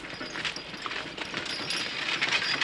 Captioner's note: wagon rattling